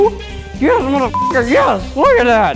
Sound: beep

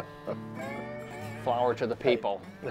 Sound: laughing

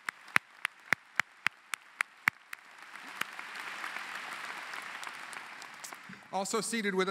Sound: applause

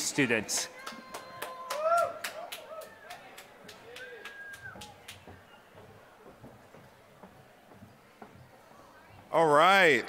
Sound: applause

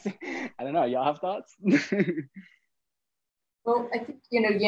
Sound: laughing

